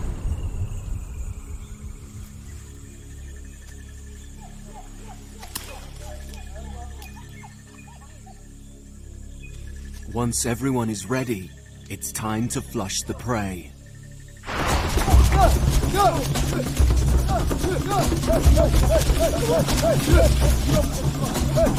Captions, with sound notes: Once everyone is ready, it's time to flush the prey. (dramatic music) (men shouting) Back in camp the drama of the hunt is acted out. The duiker's plight is made clear to all.